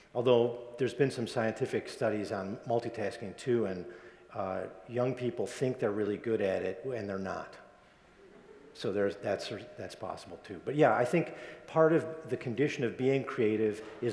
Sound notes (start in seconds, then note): 8.2 audience members laugh